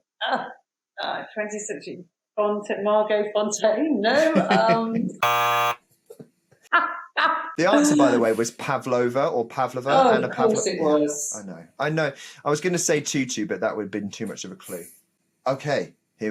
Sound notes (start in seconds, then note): 5.2 buzzer sounds